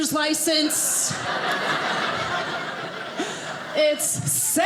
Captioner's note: audience laughing